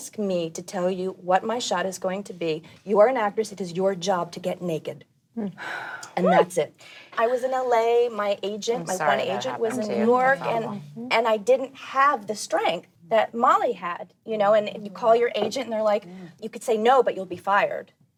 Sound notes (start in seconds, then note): 5.4 women sighing